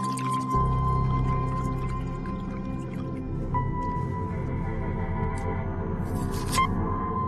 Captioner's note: liquid bubbling